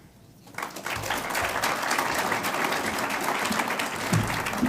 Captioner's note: audience applauds